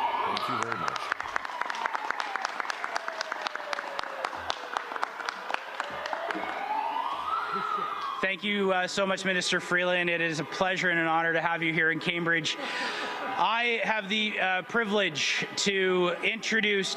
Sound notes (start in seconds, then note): 5.9 siren; 6.3 applause